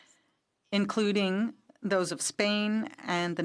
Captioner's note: speaking French